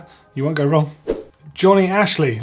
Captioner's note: swoosh